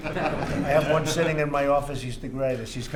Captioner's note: laughter